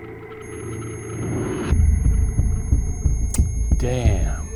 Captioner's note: device beeps